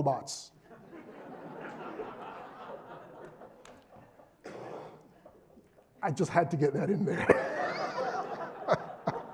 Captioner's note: laugh